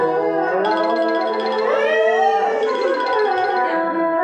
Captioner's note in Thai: ปรบมือ